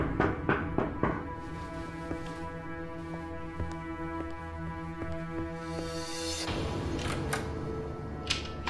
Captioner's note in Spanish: Toques en la puerta